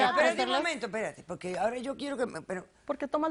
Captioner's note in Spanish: Hablan al unísono